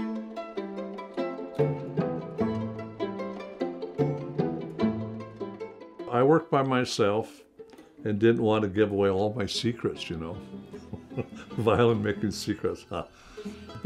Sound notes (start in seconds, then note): 0.2 plucky violin music; 10.8 laughing